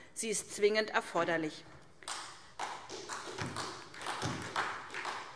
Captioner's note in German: Beifall SPD